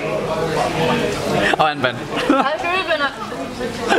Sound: laughs

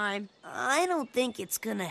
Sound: none

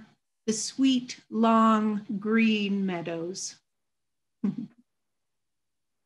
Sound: chuckles

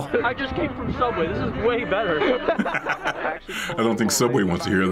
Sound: laughs

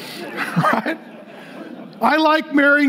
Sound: congregation laughing

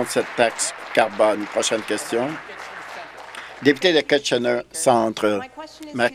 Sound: applause

